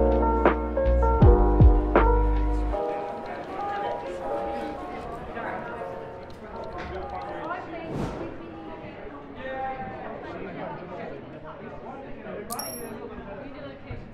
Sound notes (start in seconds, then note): 2.3 music fades; 2.4 chatter and office ambience